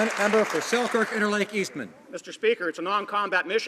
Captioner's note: some Applause